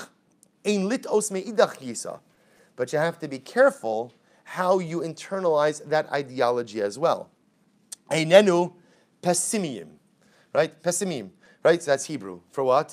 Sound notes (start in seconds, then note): 1.0 Hebrew; 7.6 Hebrew